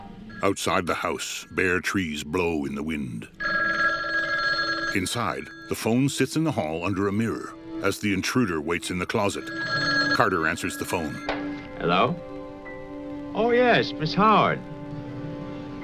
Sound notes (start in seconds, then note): 0.0 telephone ringing; 3.3 phone keeps ringing; 6.1 eerie instrumental; 9.3 phone keeps ringing